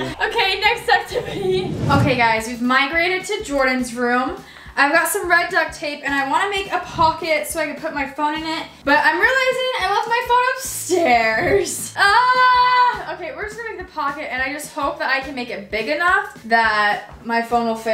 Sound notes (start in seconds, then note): 12.1 yells